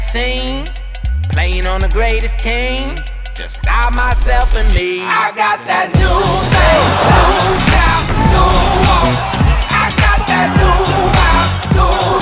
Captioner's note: crowd roaring